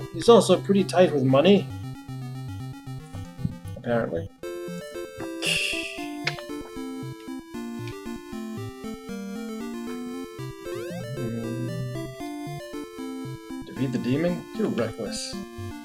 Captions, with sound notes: "He's also pretty tight with money"? Apparently. [laughs softly] [humming along] "Defeat the demon? You're reckless."